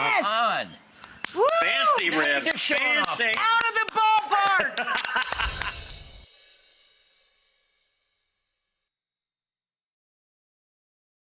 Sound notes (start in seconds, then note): 3.9 claps excitedly; 4.4 chef laughs; 5.3 magic spell sound